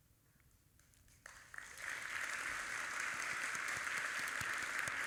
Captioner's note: audience applauding